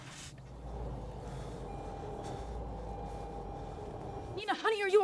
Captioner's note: vehicle engine whirring